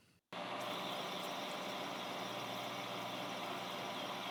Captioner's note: tool humming